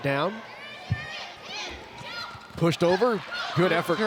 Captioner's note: players shouting indistinctly